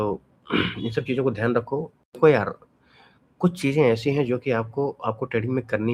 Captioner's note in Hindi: गला साफ़ करने की आवाज़